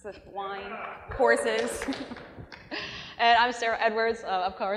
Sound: cheering, applause

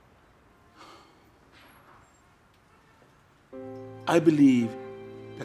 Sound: cab driver sighs

